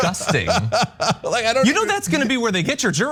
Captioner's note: laugh